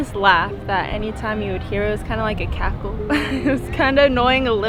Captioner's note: laughs